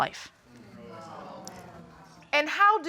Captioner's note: audience murmuring